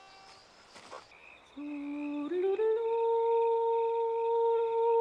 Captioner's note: crickets chirping; woman vocalizing